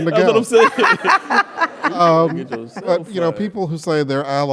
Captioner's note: laugh